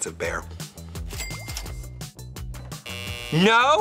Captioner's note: cash register dings; buzzer buzzing